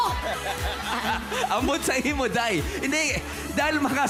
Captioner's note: laughter